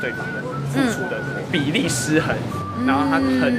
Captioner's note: voice crack